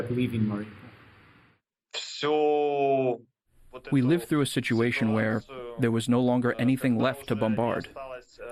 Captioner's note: through translator